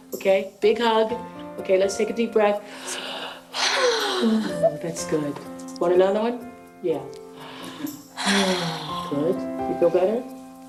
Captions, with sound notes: OKAY, LET'S TAKE A DEEP BREATH. (both inhale and exhale deeply) MMM, THAT'S GOOD. WANT ANOTHER ONE? YEAH. (both inhale and exhale deeply) GOOD. YOU FEEL BETTER?